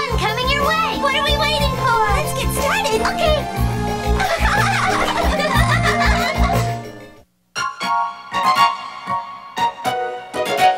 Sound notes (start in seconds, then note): 4.0 laughing; 7.7 playful music